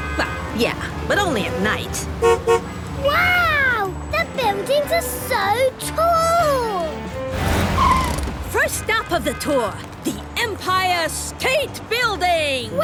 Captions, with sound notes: - Well, yeah. But only at night. (honks) - Wow! The buildings are so tall! - First stop on the tour. The Empire State Building!